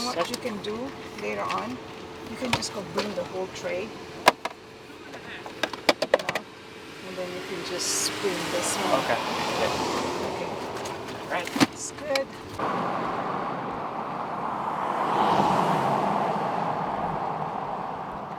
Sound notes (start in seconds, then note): 5.8 loud clatters; 10.0 car whooshes; 11.5 freezer slams; 14.6 car whooshes